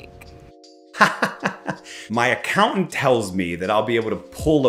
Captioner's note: laughs